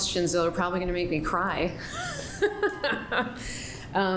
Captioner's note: laughs